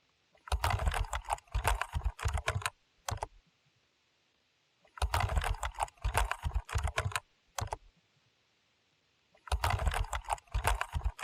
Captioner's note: typing sounds